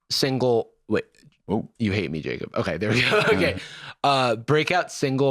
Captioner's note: laughs